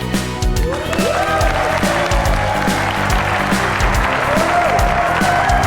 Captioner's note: applause